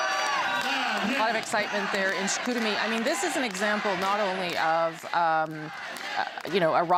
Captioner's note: applause